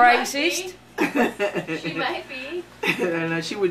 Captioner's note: laughing